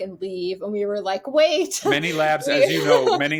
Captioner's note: chuckles